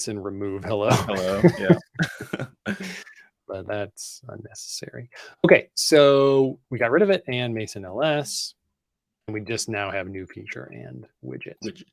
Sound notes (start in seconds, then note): 0.7 laughs